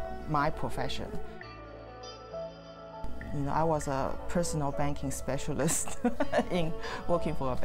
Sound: laugh

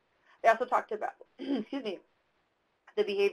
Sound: throat clearing

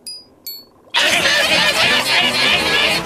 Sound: <i> clamoring hysterically</i>

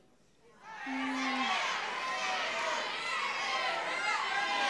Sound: audience yelling

